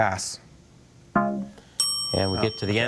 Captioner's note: bell blares